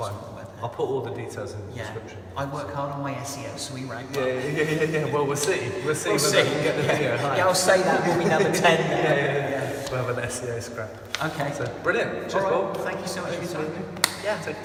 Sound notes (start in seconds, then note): 5.8 laughs